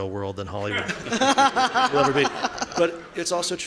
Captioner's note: laughing